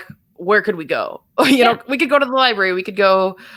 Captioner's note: laugh